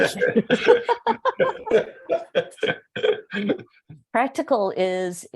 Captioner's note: laughing